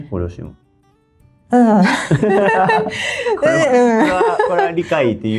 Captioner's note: laughs